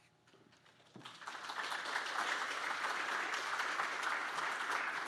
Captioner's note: audience applauds